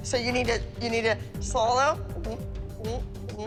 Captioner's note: gulping